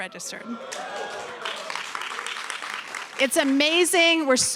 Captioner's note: cheering, applause